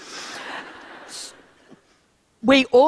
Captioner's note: laughter